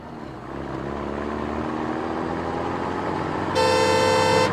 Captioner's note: car revs; horn beeps